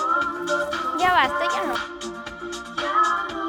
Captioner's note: Cristy speaks Spanish; relaxing Spanish music continues